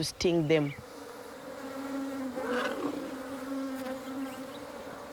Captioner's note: bees buzzing